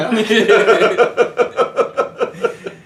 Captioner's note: giggling